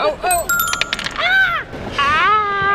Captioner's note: descending chimes